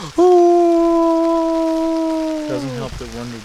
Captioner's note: moaning